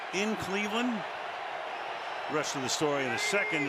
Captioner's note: cheering